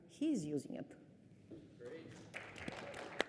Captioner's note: cheers; applause